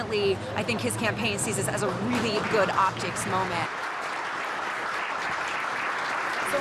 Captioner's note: applause